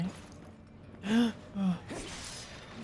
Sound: fear gasp

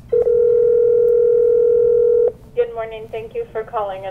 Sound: phone ringing

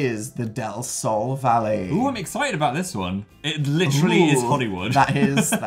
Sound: laughs

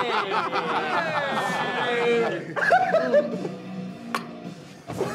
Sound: all laughing

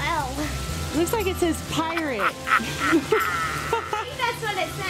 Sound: laughs

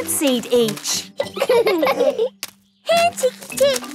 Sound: laughing

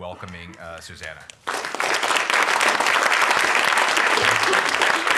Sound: applause

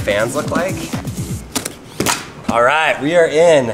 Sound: material ripping

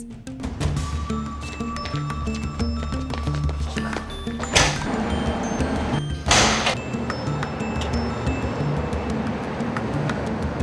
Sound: sounds of footsteps running, door banging, cars approaching

